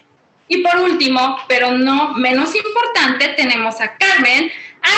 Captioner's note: woman speaking Spanish